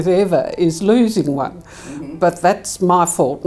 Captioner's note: giggles